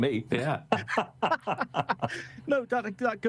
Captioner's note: laughing